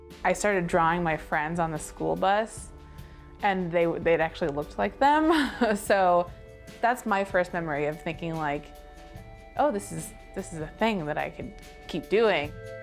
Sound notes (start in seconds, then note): 5.2 chuckling